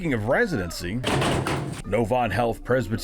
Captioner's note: sledgehammer banging